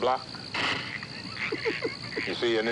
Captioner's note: Mr. Meda laughing